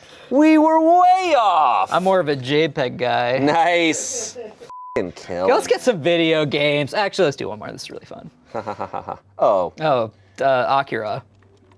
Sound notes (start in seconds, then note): 4.7 beep